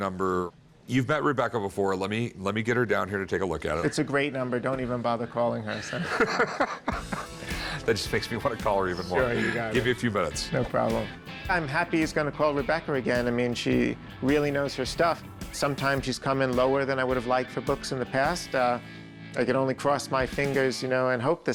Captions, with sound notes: You've met Rebecca before. Let me-- -Let me get her down here. -It's a great number. Don't even bother calling her. [Rick laughs] That makes me want to call her even more. -Give me a few minutes. -No problem. I'm happy he's going to call Rebecca again. I mean, she really knows her stuff. Sometimes she's come in lower than I would have liked for books in the past. I can only cross my fingers, you know, and hope this time.